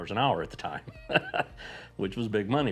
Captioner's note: laughs